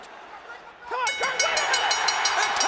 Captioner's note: bell dinging